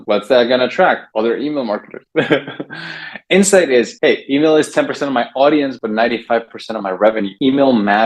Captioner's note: laughs